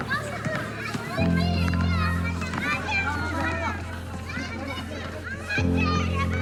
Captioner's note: children exclaiming; child speaks foreign language